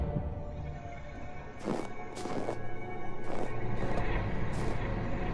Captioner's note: footsteps